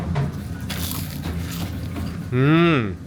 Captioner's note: Crunch